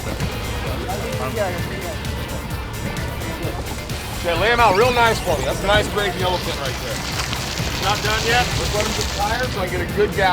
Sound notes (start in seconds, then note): 2.8 murmuring